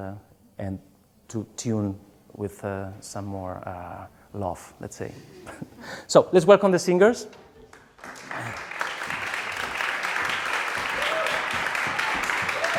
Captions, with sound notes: and to tune with some more love, let's say. So, let's welcome the singers. [APPLAUSE]